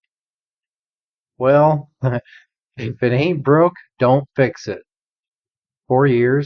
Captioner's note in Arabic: ضحكة مكتومة